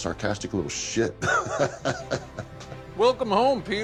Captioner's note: laughs